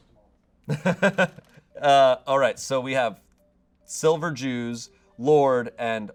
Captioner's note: laughs